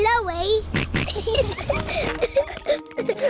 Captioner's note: snorts; kids giggling